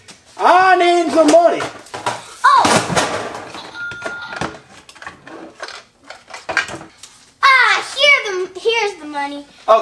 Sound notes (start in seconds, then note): 3.6 toy cash register dings